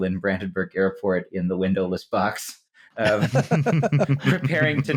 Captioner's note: laughter